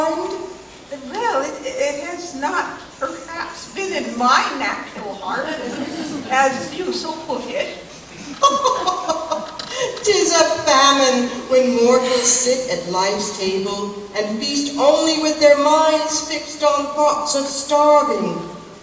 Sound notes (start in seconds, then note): 8.0 ghost laughs